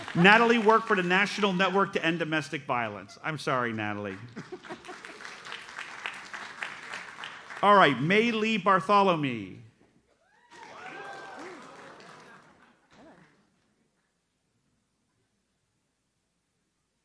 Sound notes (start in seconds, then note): 3.8 audience applauds; 10.2 audience cheers